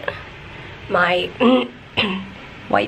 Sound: clearing throat

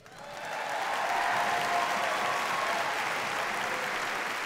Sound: audience applauding

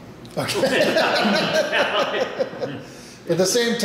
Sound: laughing

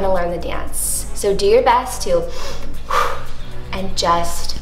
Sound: deep breath

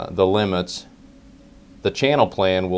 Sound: pause

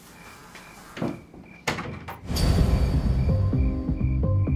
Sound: door closes

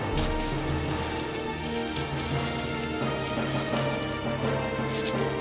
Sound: treasure rattling

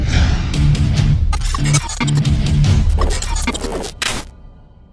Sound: electrical beeping

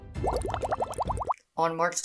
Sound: bubbles

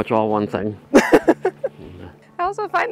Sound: laughing

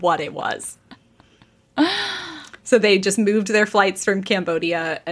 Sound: laughing

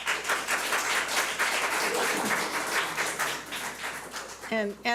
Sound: audience applauds

